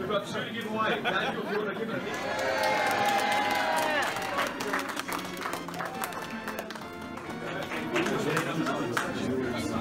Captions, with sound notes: We've got two to give away... [CROWD] YEAAHHHH!!!